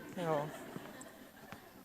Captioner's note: audience chuckles